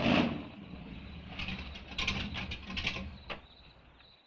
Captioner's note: crickets chirping